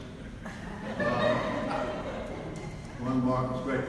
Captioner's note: audience laughs